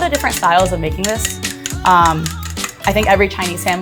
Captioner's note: chopsticks clicking